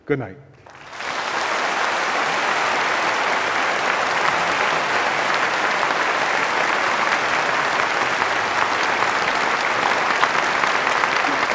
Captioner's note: applause